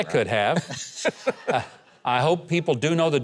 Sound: chuckles

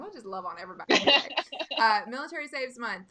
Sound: laughing

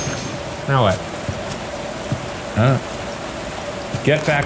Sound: school bell ringing; rain pattering

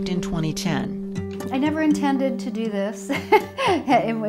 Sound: laughs

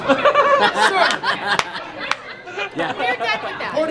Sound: laughs

